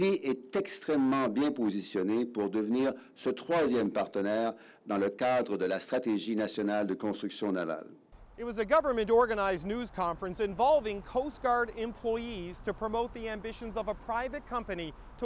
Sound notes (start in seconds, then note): 3.1 speaking French